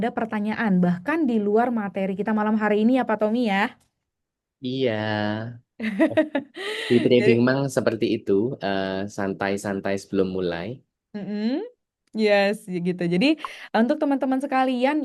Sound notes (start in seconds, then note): 5.9 tertawa; 6.6 terkesiap